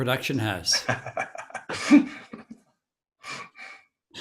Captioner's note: chuckling